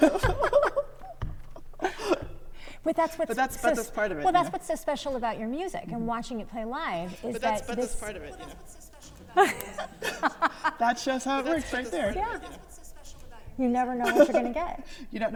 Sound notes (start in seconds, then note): 0.0 laughs; 10.3 laughs